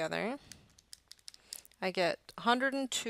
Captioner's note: typing